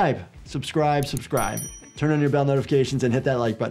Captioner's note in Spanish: campana sonando